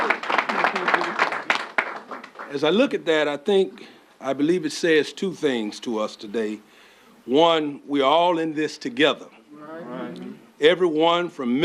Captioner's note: applause